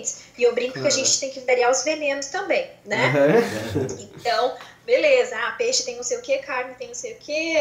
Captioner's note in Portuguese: risos